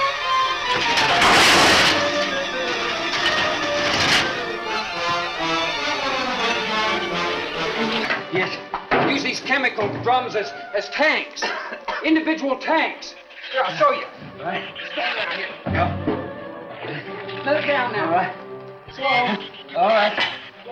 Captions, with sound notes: (objects clatter) Yes. Use these chemical drums as tanks! Individual tanks! Here, I'll show you. - All right. - Set it down here. - Yeah. - Let it down now. - All right. - Slow. - All right.